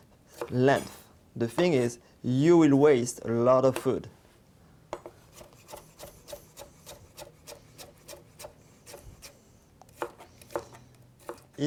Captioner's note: cutting sounds